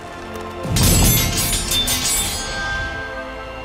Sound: metal clanking

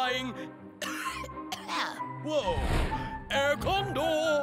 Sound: cough

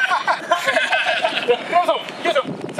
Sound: laughs

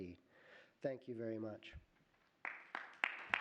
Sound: applause

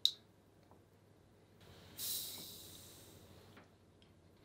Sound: can fizzing

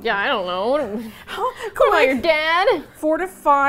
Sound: laughs; dramatically

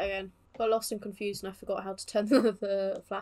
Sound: laughs

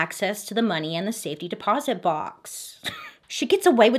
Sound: giggles

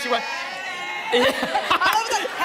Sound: laughter

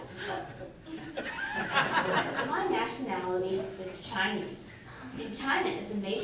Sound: audience laughing

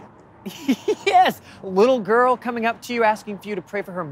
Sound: laughs

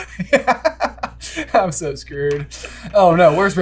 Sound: laughter

